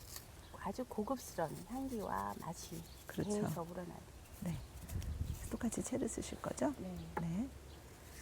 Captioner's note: speaking Korean